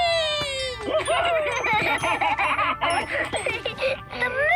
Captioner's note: laughing